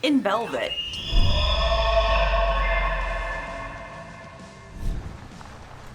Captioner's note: animals calling; subdued rhythmic music; gravel crunching